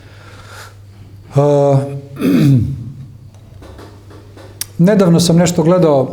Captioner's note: coughs